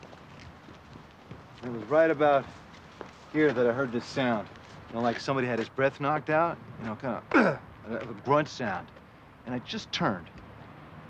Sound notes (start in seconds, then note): 7.3 grunts